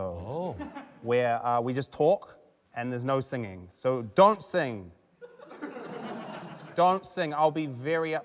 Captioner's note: scattered laughter